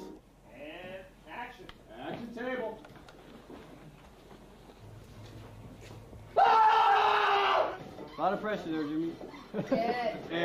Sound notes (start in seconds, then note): 4.8 screaming